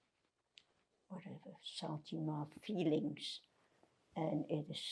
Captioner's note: french